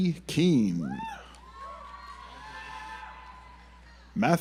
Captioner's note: audience applauds